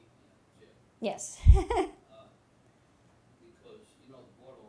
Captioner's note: chuckles